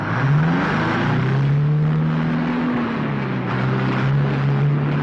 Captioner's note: engine whirring; truck engine whirring